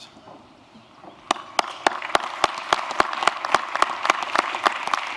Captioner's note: applause